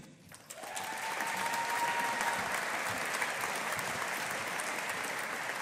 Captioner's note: audience applauding